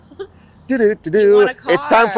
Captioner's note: imitates TV show sound